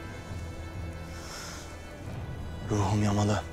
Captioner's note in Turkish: İç çekiyor